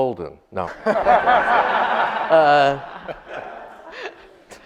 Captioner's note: audience laughs